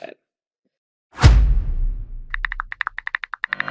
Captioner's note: logo slamming; keyboard typing